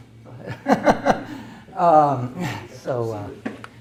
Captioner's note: laughs